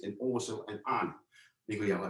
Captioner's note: Cantonese